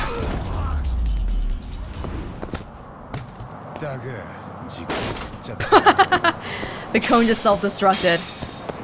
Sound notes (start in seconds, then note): 5.6 chuckles